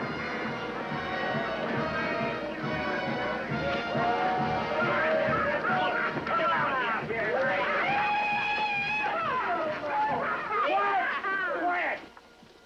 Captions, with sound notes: [ Men Hooting, Laughing ] YEE-HA ! QUIET ! QUIET !